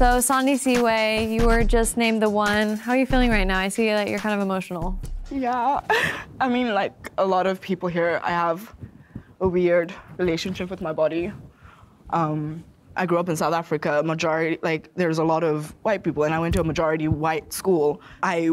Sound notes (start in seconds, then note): 5.7 laughs